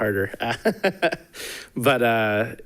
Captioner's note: chuckles